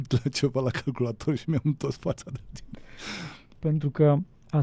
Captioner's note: sigh